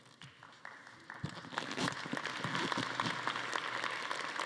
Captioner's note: attendees applauding